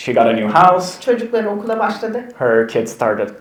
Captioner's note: speaks in Turkish